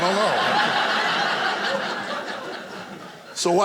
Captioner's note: audience laughing